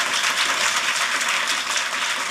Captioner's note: applause